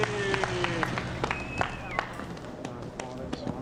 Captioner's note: man whistles